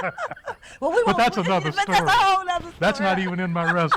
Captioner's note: laughter